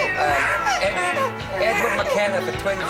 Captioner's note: baby crying